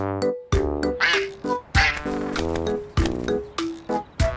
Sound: quacking

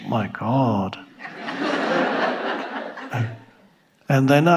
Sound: audience laughing

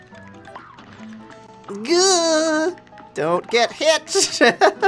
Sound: groans

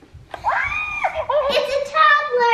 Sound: laughter

